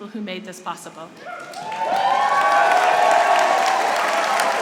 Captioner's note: applause